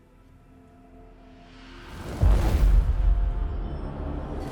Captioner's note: waves crashing